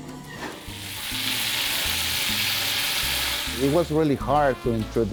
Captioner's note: food sizzling